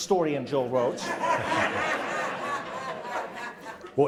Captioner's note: audience laughing